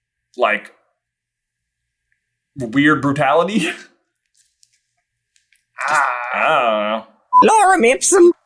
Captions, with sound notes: like... weird brutality? [I dunno noises] Lorem ipsum.